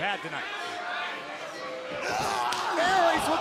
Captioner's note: crowd cheering